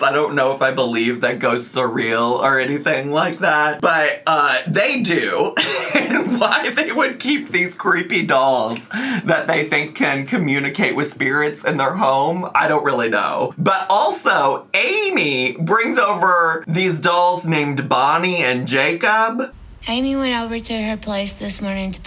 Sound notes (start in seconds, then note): 5.4 laughs